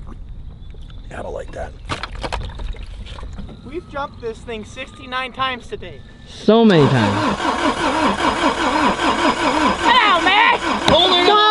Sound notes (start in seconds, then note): 6.6 engine revs